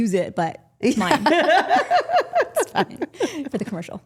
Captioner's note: women laughing